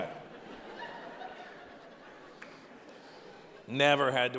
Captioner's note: audience laughing